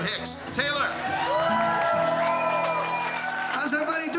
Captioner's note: crowd cheering, clapping